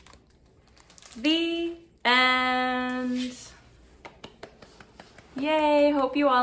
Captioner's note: applause